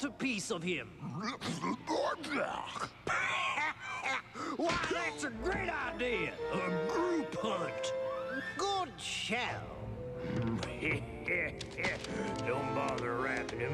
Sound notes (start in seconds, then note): 2.1 speaking alien language